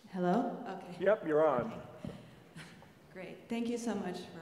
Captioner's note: laugh